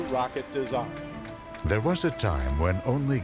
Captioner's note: voiceover